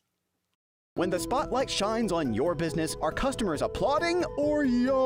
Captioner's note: voiceover